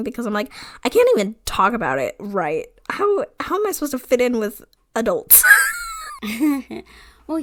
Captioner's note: wheeze laughs